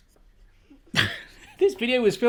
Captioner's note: laughs